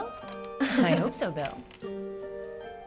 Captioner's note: giggles